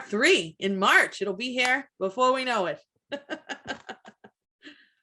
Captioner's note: laughs